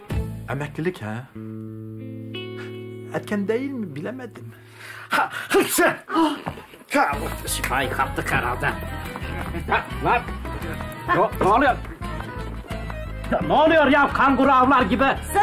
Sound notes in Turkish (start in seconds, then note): 5.0 Hapşırma sesi